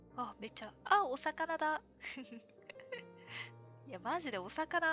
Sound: laughs

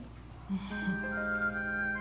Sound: chuckles softly

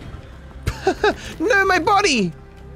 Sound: laughs

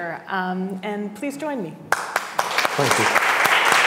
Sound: audience applauding

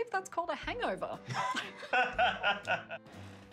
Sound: laughter

